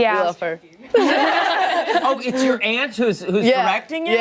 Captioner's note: laughter